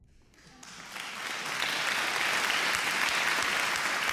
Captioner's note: applause